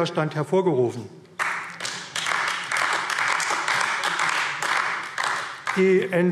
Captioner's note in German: Beifall AfD